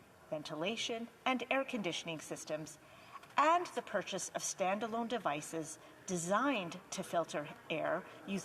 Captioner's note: hvac